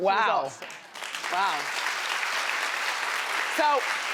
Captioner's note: audience applauding